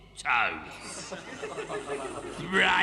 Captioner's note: weasels chuckle